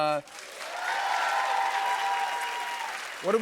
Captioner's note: cheers and applause